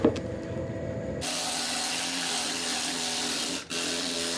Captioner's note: tool whirs